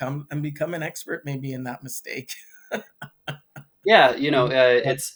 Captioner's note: laughs